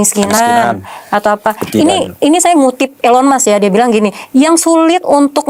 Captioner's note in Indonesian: berdehem